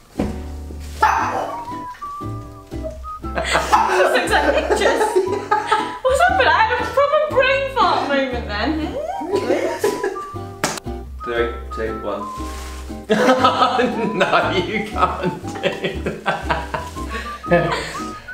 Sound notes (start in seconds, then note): 1.0 Nala barks; 3.3 laughs; 13.1 laughs